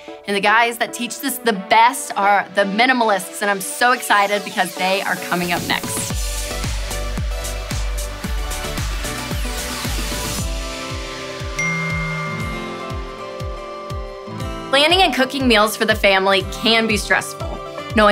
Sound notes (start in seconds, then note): 6.0 upbeat music; 11.6 cell phone chiming